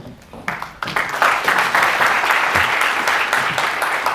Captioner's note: audience applause